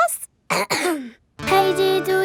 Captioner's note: clears throat